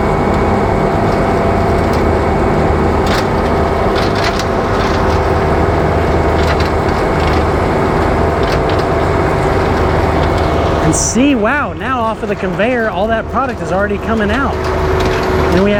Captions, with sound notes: (twangy upbeat music) (machine whirring) And see, wow. Now off of the conveyor all that product is already coming out.